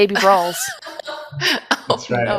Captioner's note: laughs